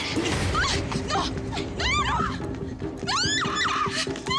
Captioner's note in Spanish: gritos